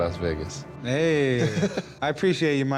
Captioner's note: laughs